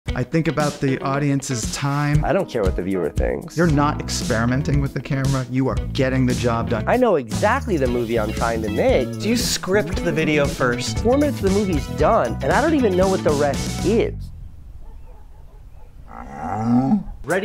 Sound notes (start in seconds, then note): 14.0 birds chirping; 16.0 cow mooing